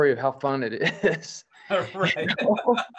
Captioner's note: laughter